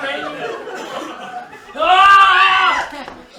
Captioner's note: he shouts